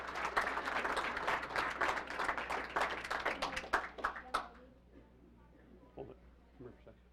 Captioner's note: applause